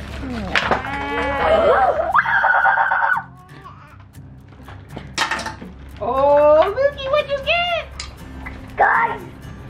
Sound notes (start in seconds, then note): 1.0 kids yelling uncontrollably